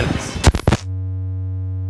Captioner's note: electric feedback